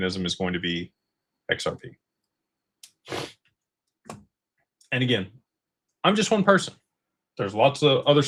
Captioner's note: snorts